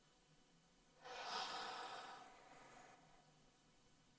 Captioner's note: deep sighing